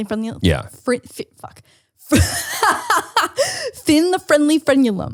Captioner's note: laughs